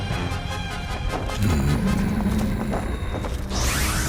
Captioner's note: growling